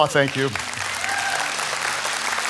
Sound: audience clapping

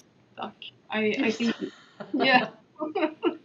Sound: laughing

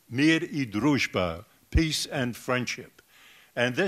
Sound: foreign language

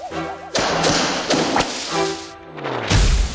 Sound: whipping

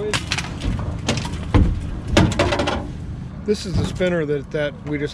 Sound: thunking

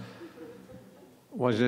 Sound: laughing

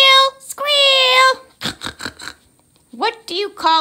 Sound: snorting laughter

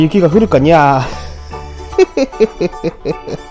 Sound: laughs

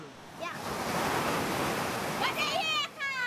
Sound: waves splashing

